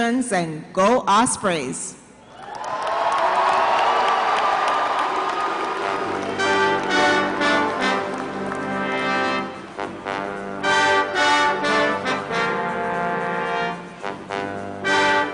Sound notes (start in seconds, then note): 2.2 cheers and applause